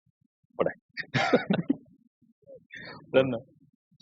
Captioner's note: both laughing